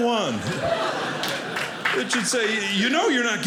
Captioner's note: audience laughing